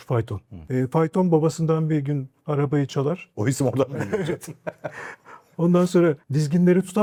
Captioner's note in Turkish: kahkaha